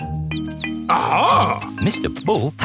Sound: chirping

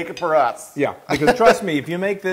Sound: laugh

